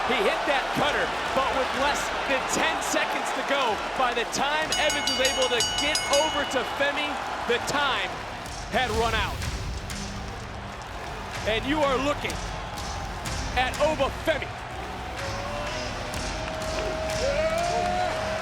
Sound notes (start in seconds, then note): 4.6 bell rings; 11.0 crowd cheers; 16.3 upbeat music continues